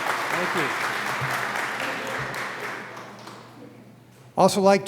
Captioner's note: applause